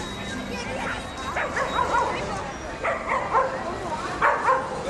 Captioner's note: dog barking